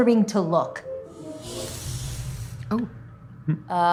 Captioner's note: buzz